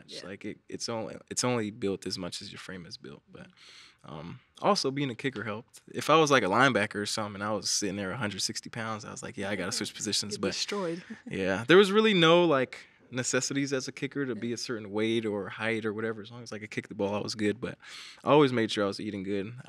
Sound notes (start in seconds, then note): 11.8 chuckles